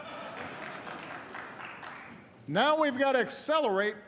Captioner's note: applause